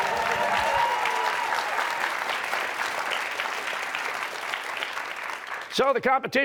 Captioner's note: cheers and applause